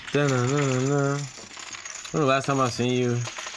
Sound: humming

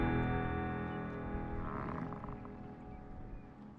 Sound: bison grunting

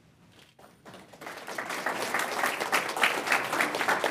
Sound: applause

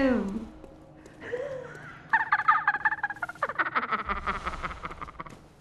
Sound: laughing again

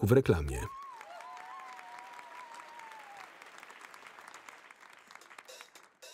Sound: audience applauding; audience cheering

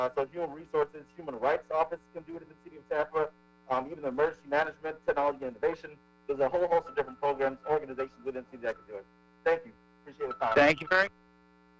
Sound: ~audio distortion~

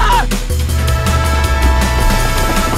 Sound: more screaming; train noises

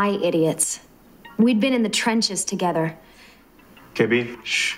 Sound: inner monologue

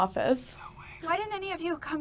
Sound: whispers

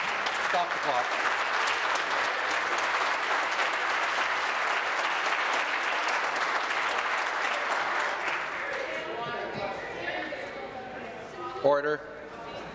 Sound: applause

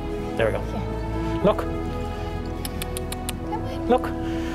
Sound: tongue clicks

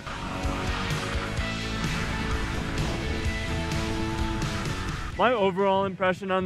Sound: energetic music; skis whooshing

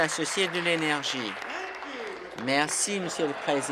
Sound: applause

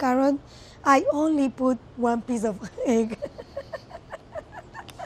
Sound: laughs

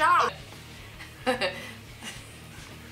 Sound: laughing

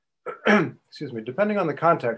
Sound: clears throat

